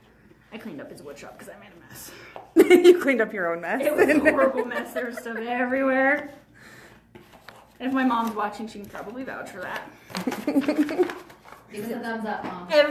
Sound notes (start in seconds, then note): 3.8 laughs; 10.1 laughs